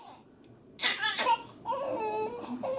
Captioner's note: crying softly